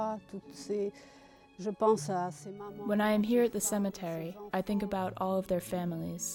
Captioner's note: speaks in a foreign language